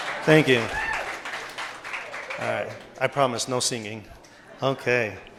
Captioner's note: cheers and applause